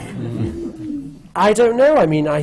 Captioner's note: laughter